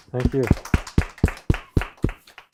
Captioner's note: audience applauds